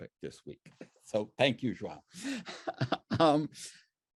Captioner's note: laughs